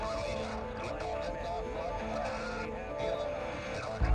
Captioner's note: radio chattering